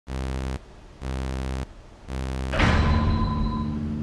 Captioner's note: buzzing sounds